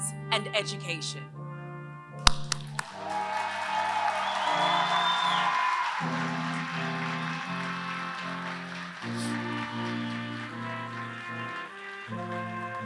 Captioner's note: applause